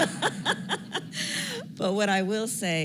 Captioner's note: laughter